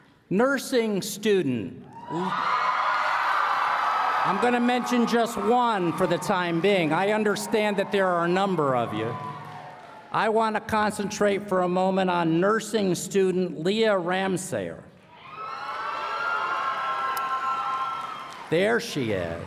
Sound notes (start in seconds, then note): 15.5 applause